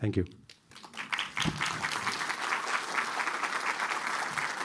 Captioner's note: applause